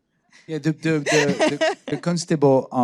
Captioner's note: laughing